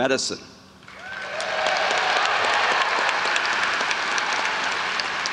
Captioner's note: audience applauds